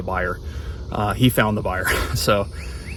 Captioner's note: chuckles